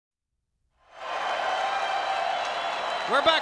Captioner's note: spectators cheering